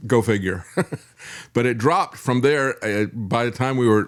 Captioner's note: laughs